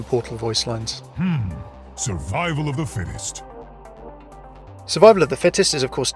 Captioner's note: voiceover